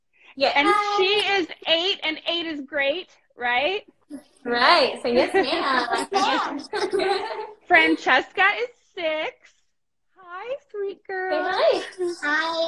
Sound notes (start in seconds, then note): 5.3 all laugh